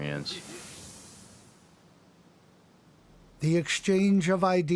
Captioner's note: wind softly blowing; air whooshing